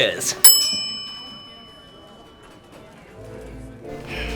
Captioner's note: bell dings